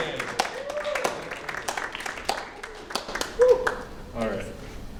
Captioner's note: applause